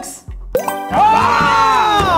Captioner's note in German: Schreie